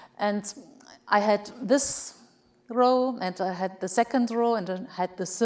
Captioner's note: none